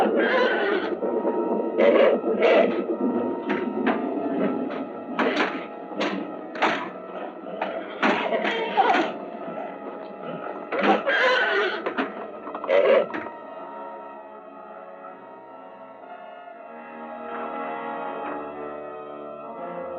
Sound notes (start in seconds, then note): 0.0 horse neighing; 5.0 door thudding; 10.8 horse neighing